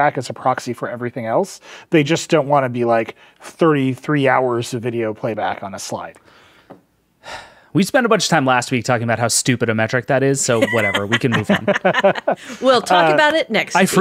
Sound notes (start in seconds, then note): 10.5 laughing